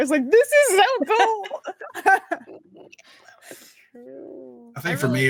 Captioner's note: cast laughing